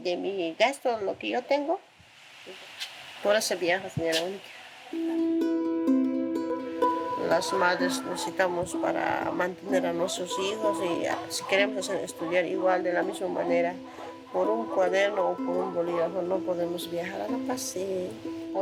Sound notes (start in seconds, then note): 5.6 gentle music; 7.7 speaking in foreign language